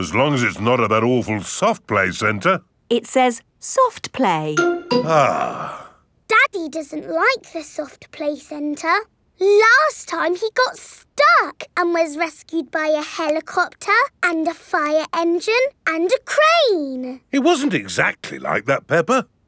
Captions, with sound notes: as long as it's not at that awful Soft Play Center. It says, "Soft Play." (SIGHS) Daddy doesn't like the Soft Play Center. Last time, he got stuck and was rescued by a helicopter and a fire engine and a crane. It wasn't exactly like that, Peppa.